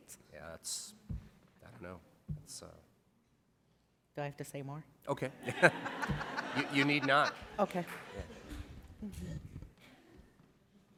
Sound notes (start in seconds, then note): 5.4 laughter